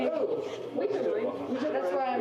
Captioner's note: many people chattering